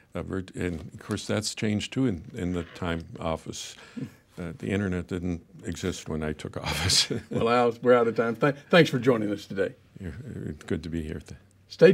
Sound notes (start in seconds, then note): 6.6 laughing